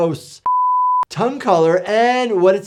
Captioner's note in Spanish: pitido en pantalla